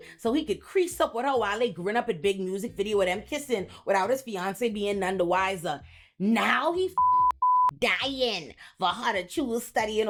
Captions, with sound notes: so he could crease up with her while they grown up in big music video with him kissing without his fiance being none the wiser, now he (beep) dying for her to choose studying